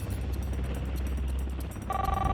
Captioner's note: helicopter blades spinning; telephone ringing